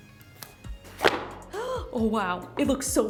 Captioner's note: gasps